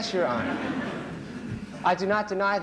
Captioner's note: laughter